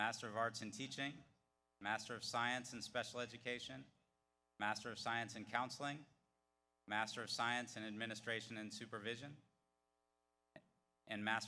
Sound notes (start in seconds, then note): none